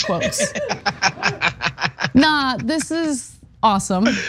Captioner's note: laugh